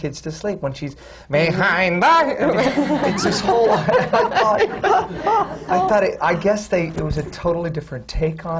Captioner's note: laughter